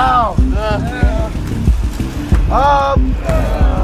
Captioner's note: men grunting